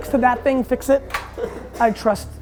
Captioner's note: laughs